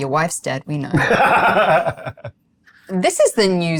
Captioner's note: laughs